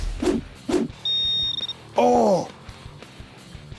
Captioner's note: beeping